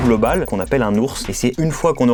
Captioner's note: in frensh